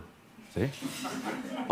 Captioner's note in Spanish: Risas